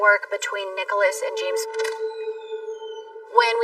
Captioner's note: door creaks open